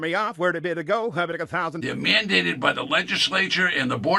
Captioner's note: auctioneer quickly bid chatting